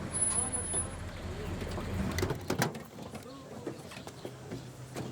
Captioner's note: people chattering indistinctly